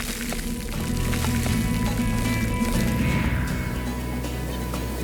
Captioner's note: whooshing sound